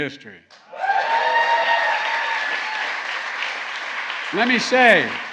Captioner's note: applause